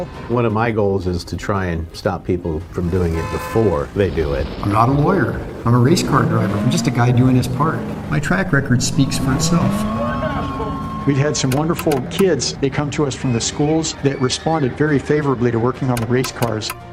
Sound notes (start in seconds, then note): 10.2 crowd cheering loudly; 10.2 vehicle engine roaring